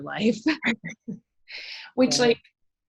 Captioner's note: laughing